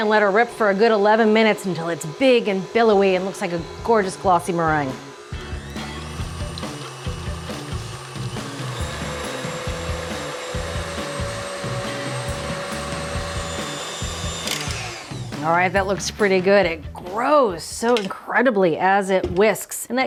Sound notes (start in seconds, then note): 6.6 mixer whirring; 6.6 upbeat music